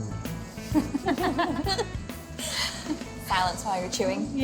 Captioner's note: laughs